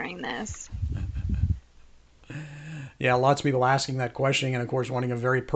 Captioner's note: chuckles